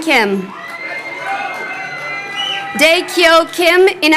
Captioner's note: crowd cheering